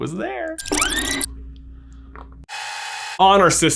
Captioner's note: VCR whirring